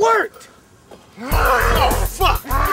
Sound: Damon growls

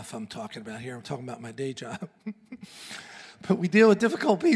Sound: laughs

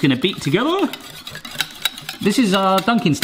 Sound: egg beating

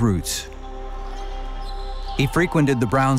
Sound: shoes squeaking

